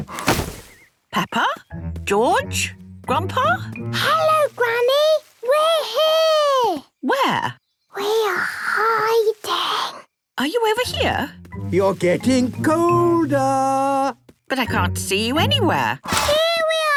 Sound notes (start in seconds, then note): 2.9 Peppa whispering